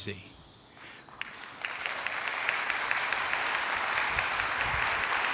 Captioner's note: attendees applauding